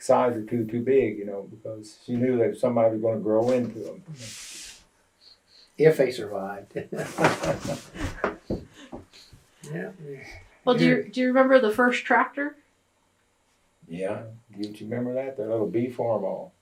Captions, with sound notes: a size or two too big because she knew that somebody would grow into them. If they survived. (Laughs) Do you remember the first tractor? Yeah. Do you remember that? That little B Farmall.